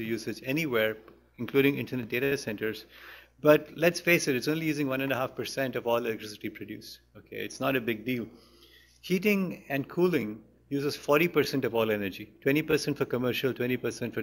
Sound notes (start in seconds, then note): none